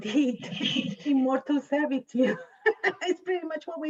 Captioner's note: laughs